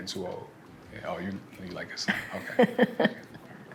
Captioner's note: laughs